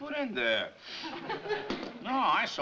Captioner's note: audience laughing